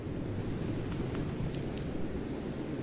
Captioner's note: wind rushing